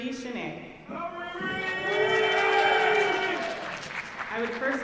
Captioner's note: audience cheering